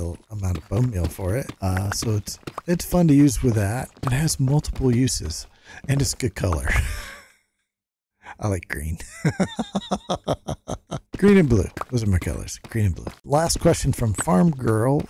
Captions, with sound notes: amount of bone meal for it. So it's fun to use with that. It has multiple uses, and it's a good color. I like green. (laughs) Green and blue, those are my colors, green and blue. Last question from Farm Girl,